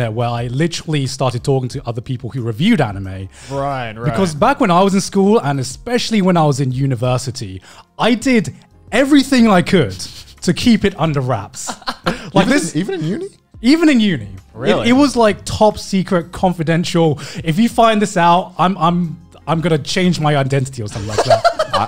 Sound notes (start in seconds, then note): 11.6 laughing